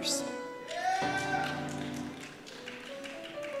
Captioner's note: cheers